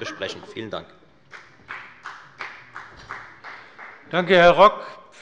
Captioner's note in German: Beifall bei der FDP